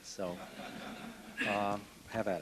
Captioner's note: laughter